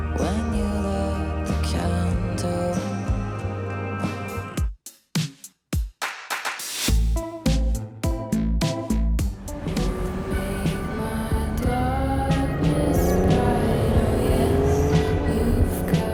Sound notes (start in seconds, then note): 4.6 upbeat electronic music; 9.2 gentle lo-fi music; 14.1 car engine revving